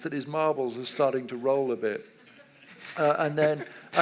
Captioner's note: audience laughs